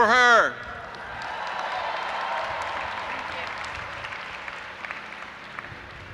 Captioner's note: audience applauding and cheering